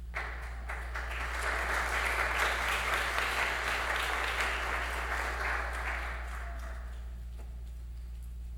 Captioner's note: applause